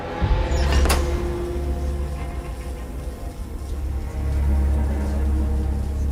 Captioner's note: ominous music; electricity crackling